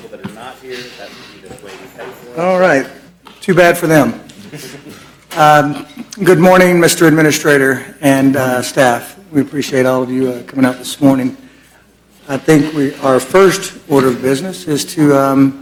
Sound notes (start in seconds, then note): 4.3 laughter